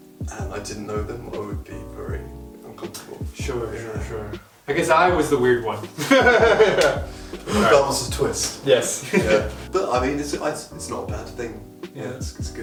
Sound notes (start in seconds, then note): 4.8 laughing